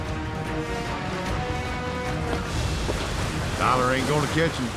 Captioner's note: fast hoofbeats